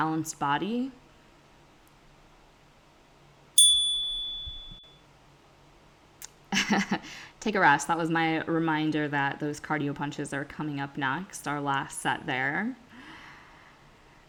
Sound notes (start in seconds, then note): 3.6 chime; 7.3 laughs